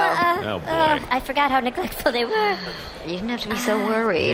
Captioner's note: sighs